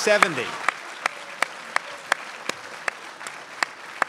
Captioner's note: crowd applauds